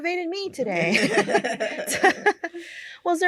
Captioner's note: laughter